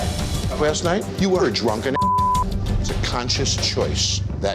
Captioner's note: beep